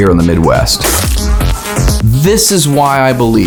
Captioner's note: man spits